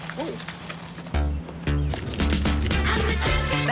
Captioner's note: coins falling